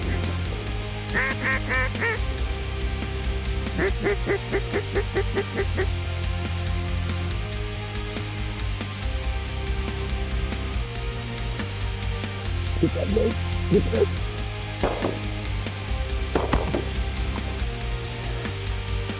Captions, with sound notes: (DUCK CALLS) (DUCK CALLS) >>TAKE THAT DRAKE. (GUN SHOTS) (GUN SHOTS)